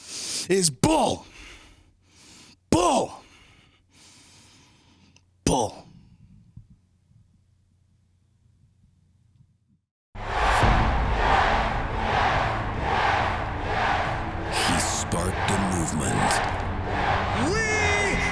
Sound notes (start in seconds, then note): 11.0 fans chanting